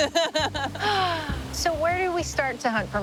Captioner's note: laughs